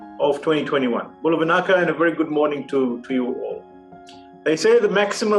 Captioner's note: non-english speech